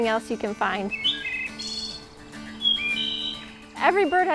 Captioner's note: birds chirping